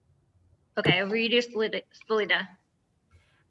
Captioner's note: audio blurs